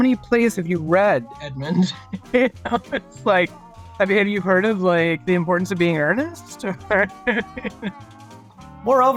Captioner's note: laughs